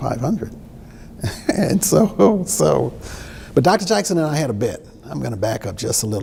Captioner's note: chuckles